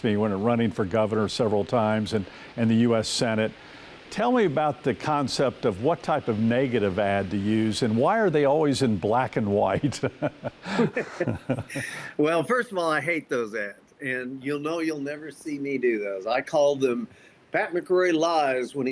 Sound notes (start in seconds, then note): 9.7 both laugh